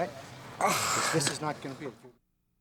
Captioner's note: groans